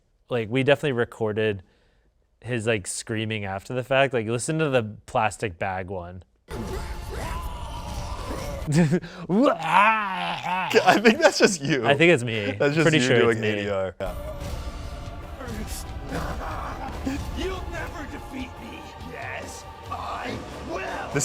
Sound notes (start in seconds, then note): 6.9 chokes; 9.4 mimics choking sound; 16.1 laughs